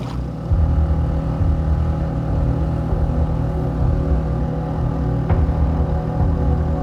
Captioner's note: boat motor sound; mellow music